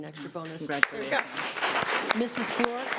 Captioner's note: everyone clapping